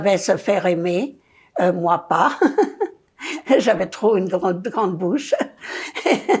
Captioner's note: laughing